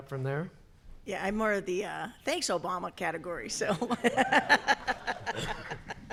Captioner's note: laughs